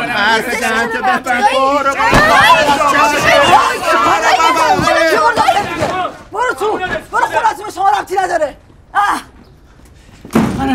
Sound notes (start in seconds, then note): 2.8 shouting out; 10.3 door slams